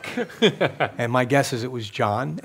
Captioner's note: laughs